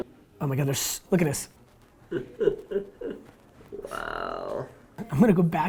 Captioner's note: chuckles